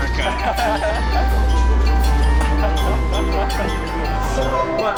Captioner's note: laughter